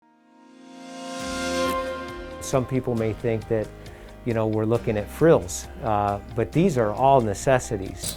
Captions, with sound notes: [Digital Woosh][Upbeat music begins] Some people may think that, you know we're looking at frills, but these are all necessities.